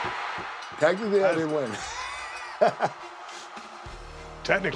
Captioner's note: laugh